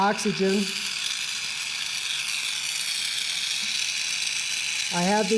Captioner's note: gas sizzling